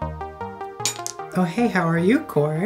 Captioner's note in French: cling